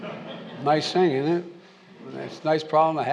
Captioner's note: laughter